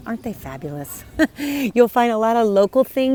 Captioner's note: chuckles